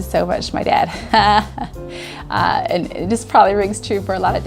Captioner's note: laughs